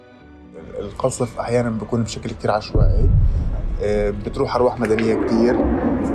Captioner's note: speaking in foreign language